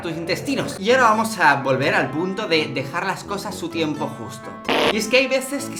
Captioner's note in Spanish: sonido de gas